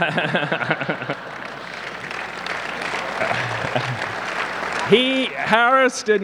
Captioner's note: laughs; audience clapping